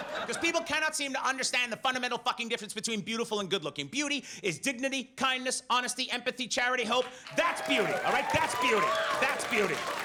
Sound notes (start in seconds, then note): 7.5 audience laughs